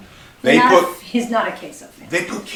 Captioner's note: laughs